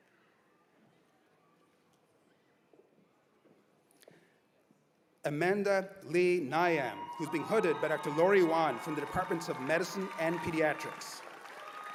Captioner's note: cheers and applause